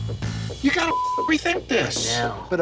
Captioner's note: beep